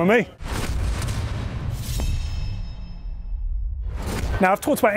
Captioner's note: electronic crunching